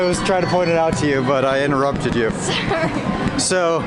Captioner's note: laughing